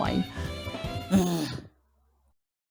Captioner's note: gasps heavily